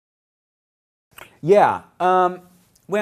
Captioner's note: silence